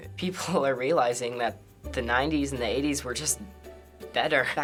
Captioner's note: none